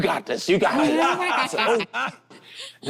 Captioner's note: group laughs